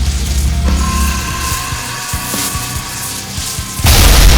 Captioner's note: scorpion beast shrieks; ground crashes